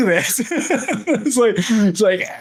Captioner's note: laughs